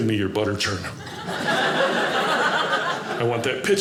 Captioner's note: audience laughing